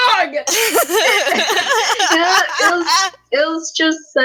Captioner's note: laughing